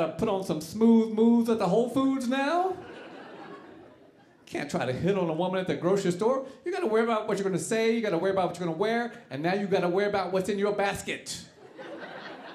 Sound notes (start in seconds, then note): 2.7 audience laughing